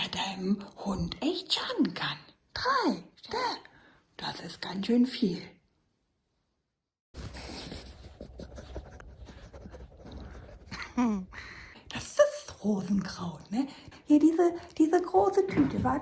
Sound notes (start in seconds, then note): 7.1 dog snuffles; 10.8 laughs